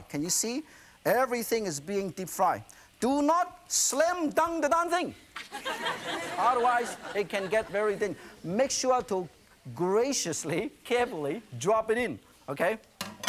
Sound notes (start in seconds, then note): 5.4 laughter